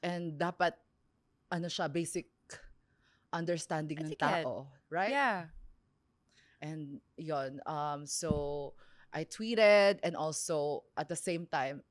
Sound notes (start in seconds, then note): none